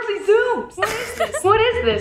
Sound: snickers

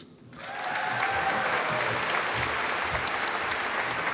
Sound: audience applauding

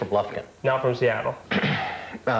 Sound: clears throat

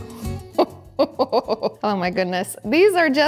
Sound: laughs

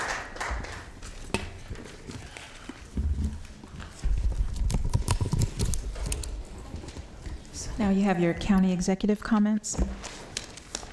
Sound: applause

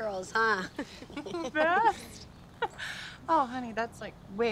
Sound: laughs

